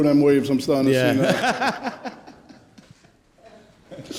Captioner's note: laughs loudly